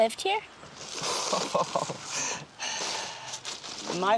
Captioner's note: laughs